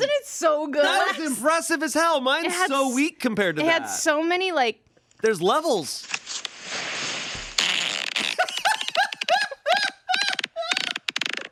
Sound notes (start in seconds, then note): 6.6 recording farts; 8.4 laughs